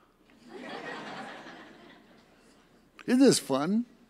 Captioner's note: audience laughs